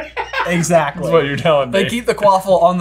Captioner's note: laughing